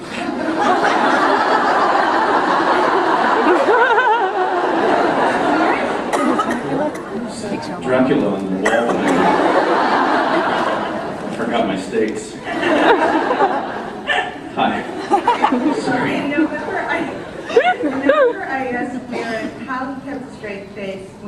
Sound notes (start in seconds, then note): 0.2 laughs; 8.8 laughs; 14.8 laughing; 14.8 laughs